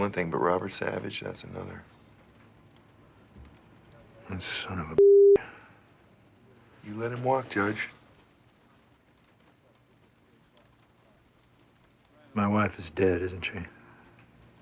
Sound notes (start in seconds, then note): 9.6 thunder rumbles